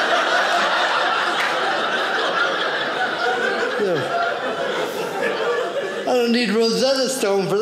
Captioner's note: audience laughing